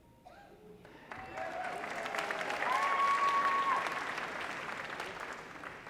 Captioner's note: audience applauding